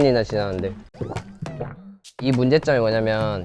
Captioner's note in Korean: 꿀꺽